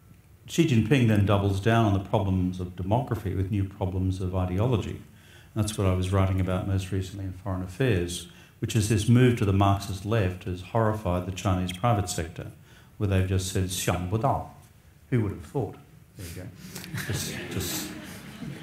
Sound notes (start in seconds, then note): 13.9 speaks in foreign language; 16.7 audience laughs